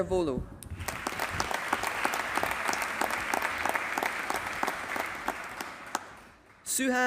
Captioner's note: applause